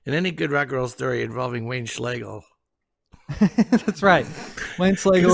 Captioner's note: chuckles